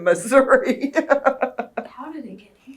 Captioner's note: laughs